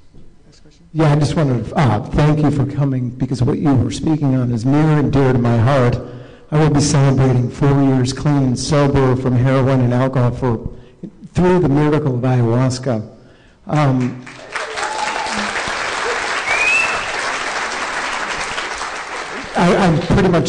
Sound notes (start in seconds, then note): 18.3 applause